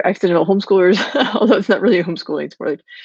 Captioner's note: chuckles